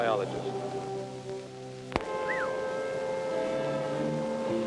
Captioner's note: whistles